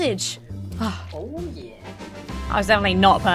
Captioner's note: sighs